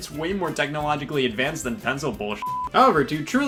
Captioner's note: beep